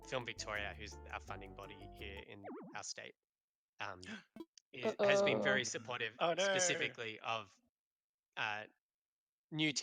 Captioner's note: gasps